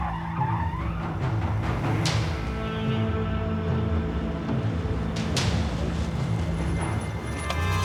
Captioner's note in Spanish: ruido los vehículos